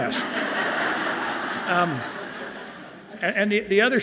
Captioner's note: audience laughing loudly